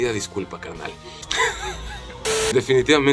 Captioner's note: laughter